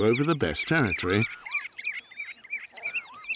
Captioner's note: birds chirping